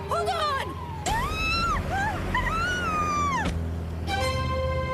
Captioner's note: screaming